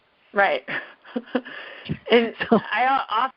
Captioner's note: laughs